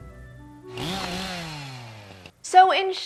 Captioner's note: eccentric chainsaw noises